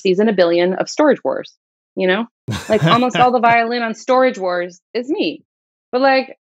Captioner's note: laughter